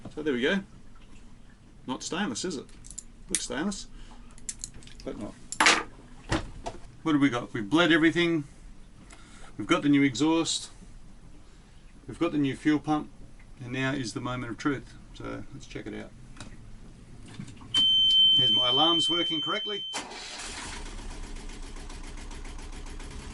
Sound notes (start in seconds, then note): 17.7 machinery beeping; 20.2 engine rattling